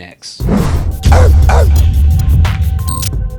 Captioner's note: air whooshing; dog barking